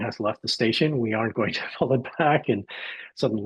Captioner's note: laughs